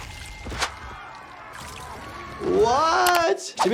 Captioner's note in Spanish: Exclamaciones de la multitud